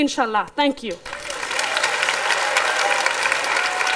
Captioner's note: applause